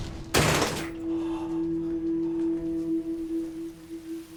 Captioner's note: door bangs; somber music